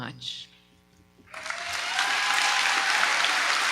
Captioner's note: audience applauding